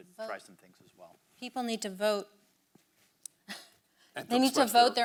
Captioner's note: chuckles